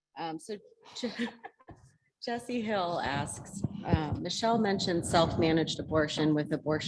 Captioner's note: laugh